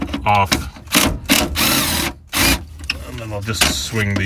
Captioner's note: drill torquing